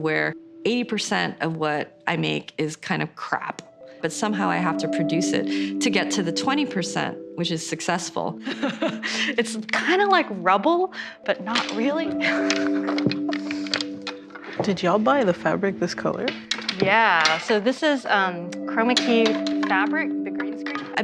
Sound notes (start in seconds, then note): 8.4 laughs; 12.2 chuckles